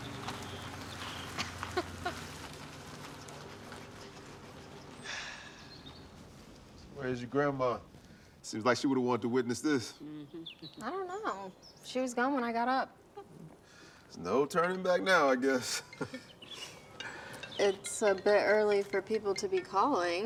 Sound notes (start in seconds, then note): 1.4 Tracy chuckles; 15.3 phone ringing brightly